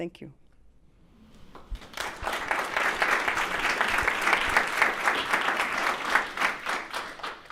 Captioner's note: audience applauds